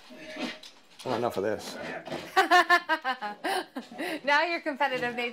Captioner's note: laughs